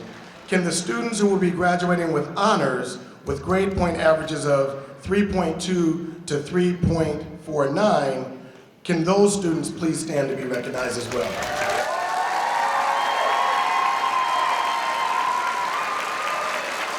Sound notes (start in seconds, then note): 10.7 audience cheering